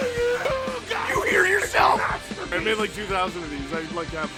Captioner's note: Harry potter screaming; screaming